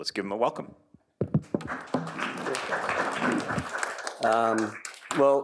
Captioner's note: applause